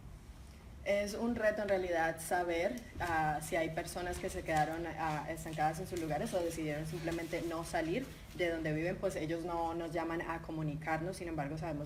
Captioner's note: speaking in Spanish